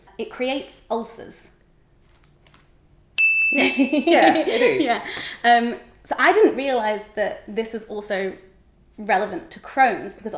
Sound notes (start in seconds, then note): 3.2 bell dings; 4.0 laughing